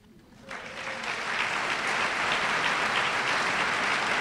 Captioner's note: applause